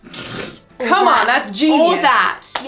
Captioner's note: laughing